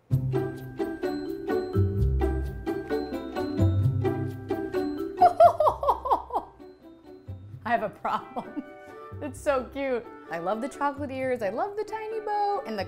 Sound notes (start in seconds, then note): 0.1 bright jaunty music; 5.2 laughs